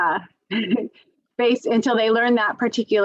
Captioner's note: laughs